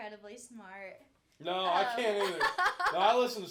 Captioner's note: laughing